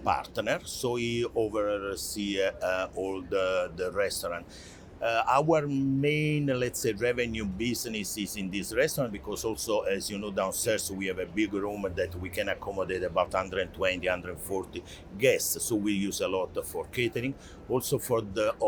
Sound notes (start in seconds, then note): none